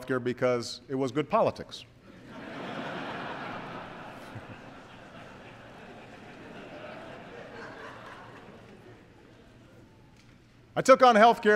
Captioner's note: laughter